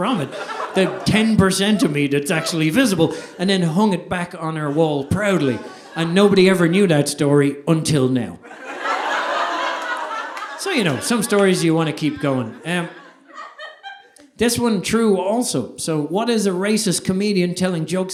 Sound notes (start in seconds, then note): 8.4 audience laughing